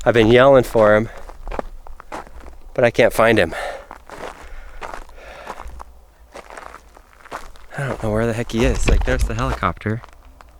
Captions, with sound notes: I've been yelling for him, but I can't find him. (footsteps) (breathing heavy) I don't know where the heck he is. Like, there's the helicopter.